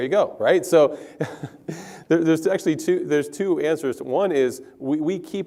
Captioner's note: laugh